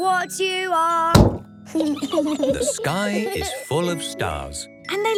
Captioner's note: giggling